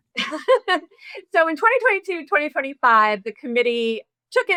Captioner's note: laughs